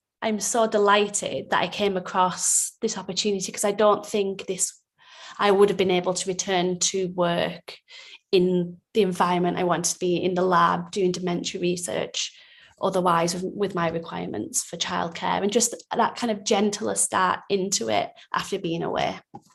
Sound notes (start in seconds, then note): none